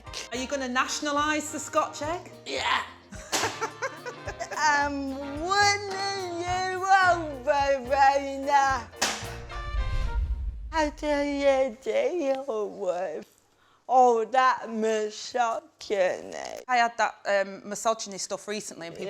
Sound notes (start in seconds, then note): 3.1 laughs; 3.3 thwack; 9.0 thwack